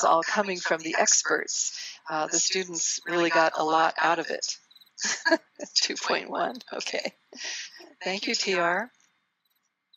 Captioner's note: laughter